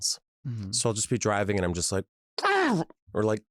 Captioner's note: angry grunt; angry grunting